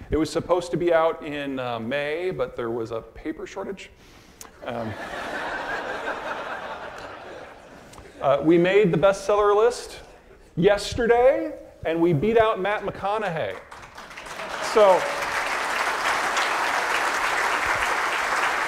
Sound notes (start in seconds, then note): 4.7 audience laughing; 13.5 audience applause